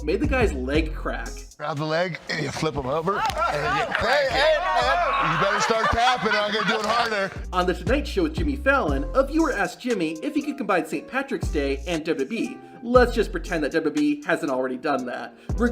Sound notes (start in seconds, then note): 2.1 leg cracking; 2.2 crowd laughing